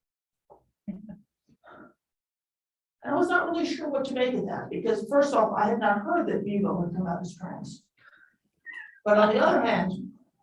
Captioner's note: laughter